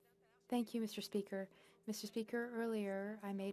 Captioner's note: speaking French